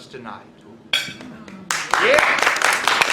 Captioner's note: clapping